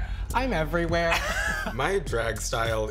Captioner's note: chuckling